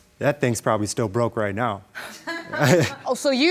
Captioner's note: chuckles